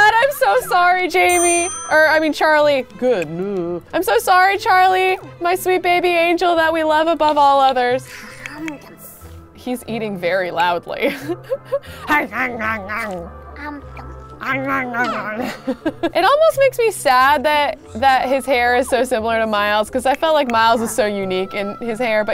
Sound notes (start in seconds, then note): 12.1 grunting; 14.5 laughs